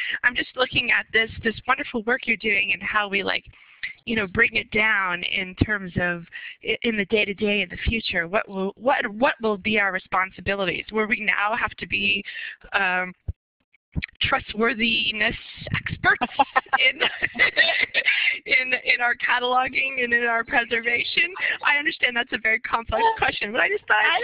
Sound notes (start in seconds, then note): 18.7 laughter